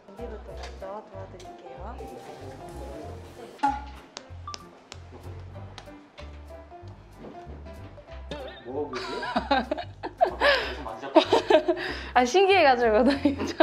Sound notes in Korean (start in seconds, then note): 8.9 웃음